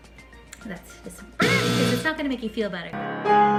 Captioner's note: buzzer